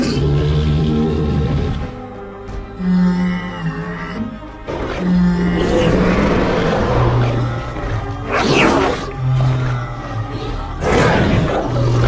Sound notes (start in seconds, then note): 0.0 Carnotaurus and Stegosaurus Growls